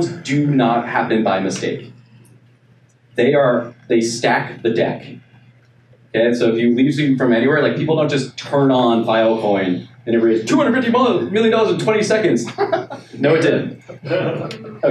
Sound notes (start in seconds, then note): 12.2 laughing